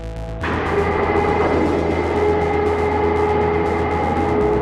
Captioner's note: shutter doors whine